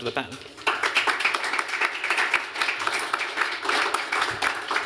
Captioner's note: applause